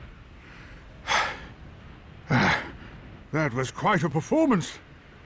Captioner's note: panting